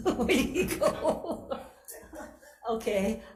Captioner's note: laughter